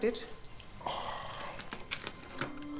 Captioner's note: gentle music; sighs; cash rustling